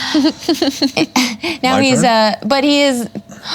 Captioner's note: gasps